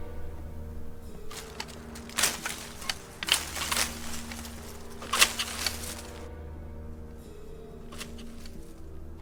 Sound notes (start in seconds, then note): 0.1 leaves rustling; 1.0 shear snipping